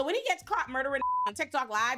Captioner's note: beep